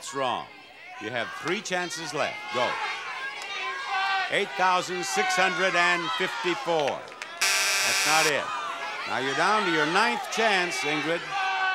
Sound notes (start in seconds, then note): 7.4 buzzer blares; 11.5 audience shouting numbers